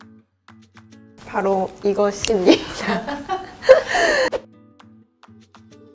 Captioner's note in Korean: 웃음: 으하하하 호호